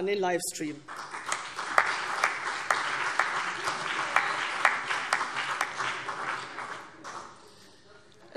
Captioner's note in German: Beifall CDU und BÜNDNIS 90/DIE GRÜNEN